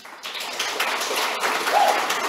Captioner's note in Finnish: aplodeja